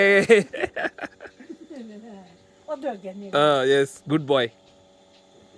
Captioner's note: speaking in foreign language